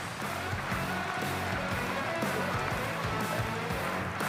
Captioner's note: audience applauds; high-energy rock music